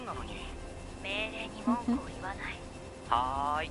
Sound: laughs

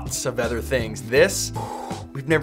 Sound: exhales

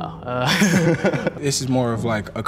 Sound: both laughing

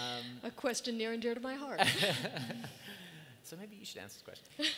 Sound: both laugh

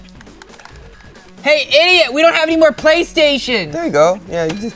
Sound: yelling

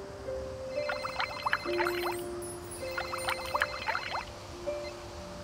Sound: Shell phone ringing

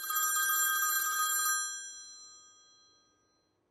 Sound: telephone ringing

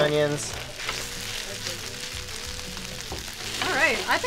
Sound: pan sizzling

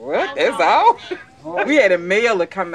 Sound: woman laughs

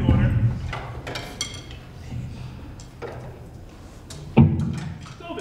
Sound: sticks falling

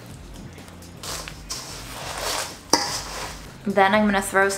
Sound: bananas squishing; upbeat electronic music; banana squishing; Corn Flakes crunching

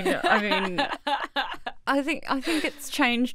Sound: laughs

